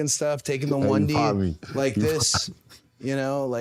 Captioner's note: laughs